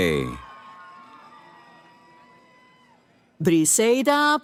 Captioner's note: cheering